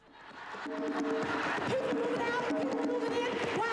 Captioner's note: chanting